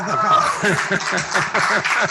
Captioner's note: applause; laughs